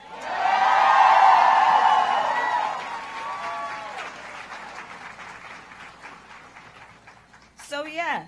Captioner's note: applause